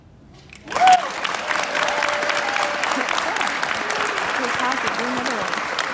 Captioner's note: applause